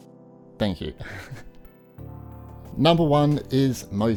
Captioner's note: laughs